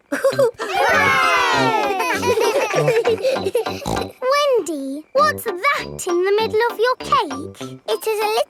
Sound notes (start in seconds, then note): 0.0 chuckles; 0.0 laughing; 2.2 snorts